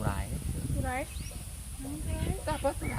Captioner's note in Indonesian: Tonggeret